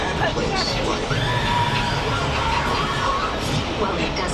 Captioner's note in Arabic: يتم تشغيل مؤثرات صوت الصراخ